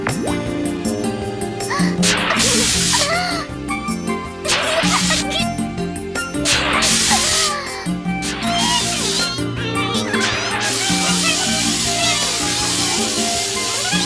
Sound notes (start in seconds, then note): 1.6 water spraying; 8.7 squeaking